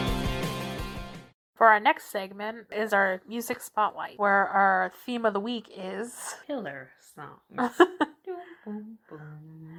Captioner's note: transition music plays; laughs